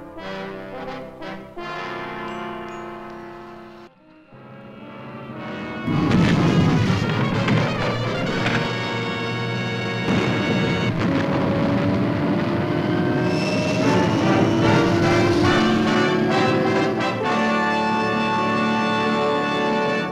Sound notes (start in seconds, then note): 0.1 dramatic and tense orchestral music; 5.9 engines roaring; 7.4 tense orchestral music; 10.2 engines roaring; 12.9 rocket screeching; 16.1 rousing orchestral music